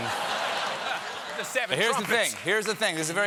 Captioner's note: laughter